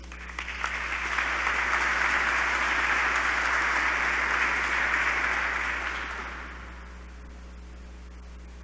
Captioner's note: applause